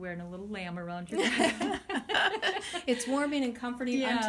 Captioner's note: hearty laughing